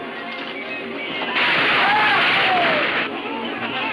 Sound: horses galloping; men shouting

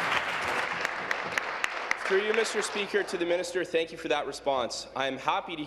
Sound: applause

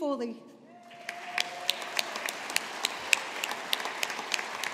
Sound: audience applauding

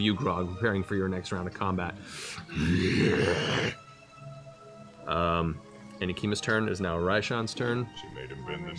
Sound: growls

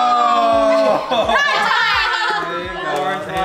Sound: laughing

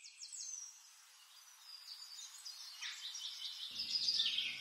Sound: birds chirping

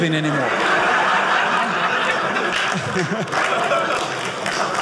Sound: audience laughing

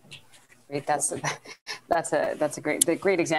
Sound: chuckles

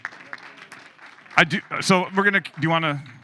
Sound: audience applauding

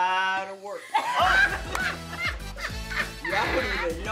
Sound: others laugh

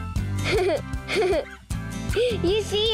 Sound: laughs

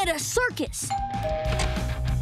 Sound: doorbell ringing

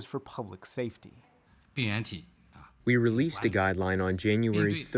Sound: through translator

